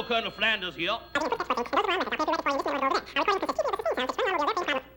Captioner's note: high speed speech